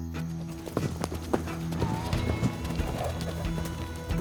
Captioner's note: suspense music; hoofbeats; suspense music